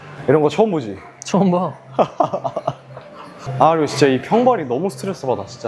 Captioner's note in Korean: 웃음